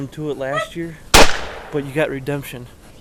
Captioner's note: gunshot